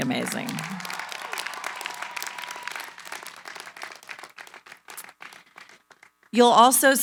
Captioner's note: applause